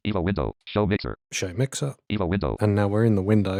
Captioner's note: automated voice